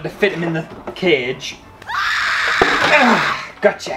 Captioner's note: screams